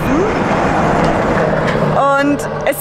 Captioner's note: truck drives